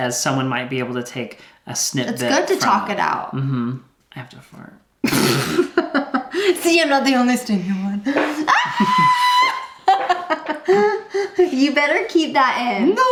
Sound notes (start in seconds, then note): 5.4 laughs; 8.4 farts loudly; 8.5 squeals